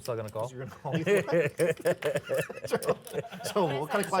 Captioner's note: laughter